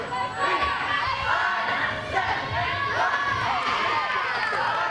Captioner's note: cheerleaders chanting